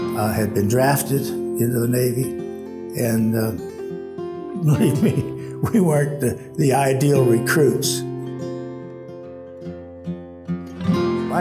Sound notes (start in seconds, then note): 4.6 chuckles; 8.6 gentle music